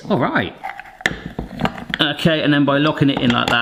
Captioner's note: juicer parts clunking